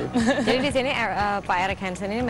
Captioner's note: non-english speech